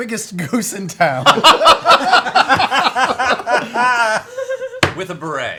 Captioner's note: laughter